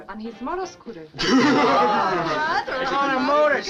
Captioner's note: all chuckling